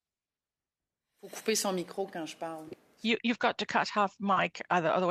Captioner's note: speaking French